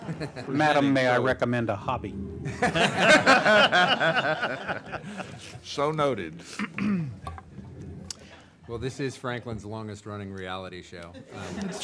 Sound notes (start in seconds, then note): 2.4 laughing